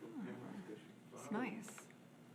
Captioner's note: speaking faintly